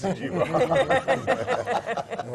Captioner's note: laugh